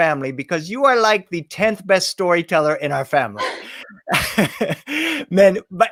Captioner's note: laughs